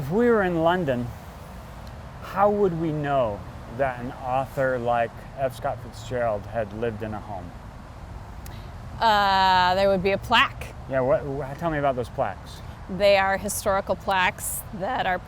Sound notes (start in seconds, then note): none